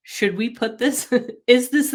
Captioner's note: laughs